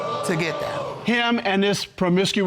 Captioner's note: audience exclaiming